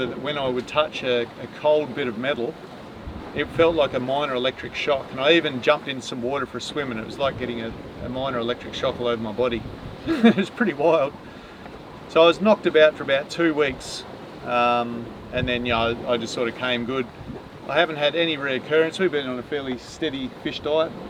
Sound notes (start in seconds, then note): 10.0 laughs